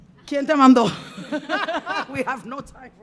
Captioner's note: speaking in Spanish; band laughing